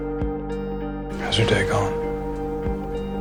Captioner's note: voiceover